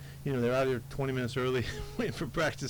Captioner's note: laughs